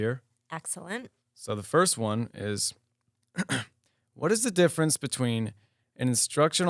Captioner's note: clears throat